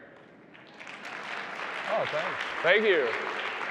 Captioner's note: audience applauding